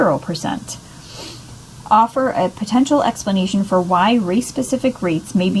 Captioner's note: sniffs